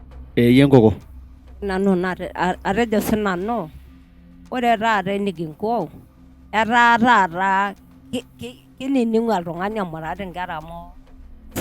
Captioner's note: speaking in Maasai